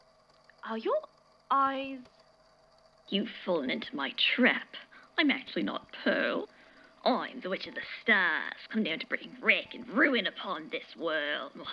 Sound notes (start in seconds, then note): 6.9 dramatically